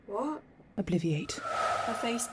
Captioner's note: whoosh